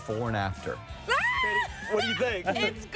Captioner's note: screaming excitedly